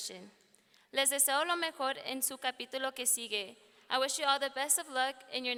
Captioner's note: speaking in foreign language